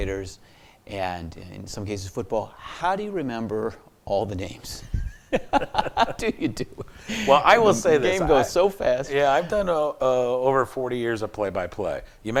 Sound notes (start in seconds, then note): 4.9 laughs